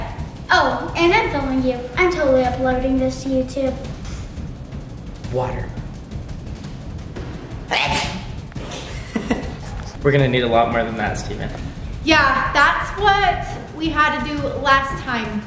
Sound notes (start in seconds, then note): 7.8 sneezes; 8.6 laughing